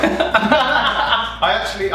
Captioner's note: laughing